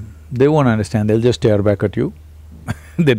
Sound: laughs

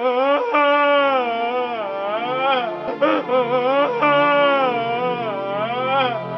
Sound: crying

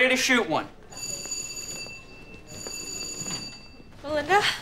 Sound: ringing

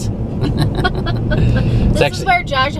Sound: laughing

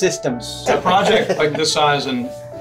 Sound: everybody laughing

